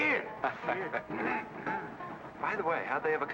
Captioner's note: men chuckle